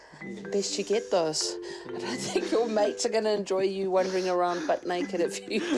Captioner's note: chuckles; chuckles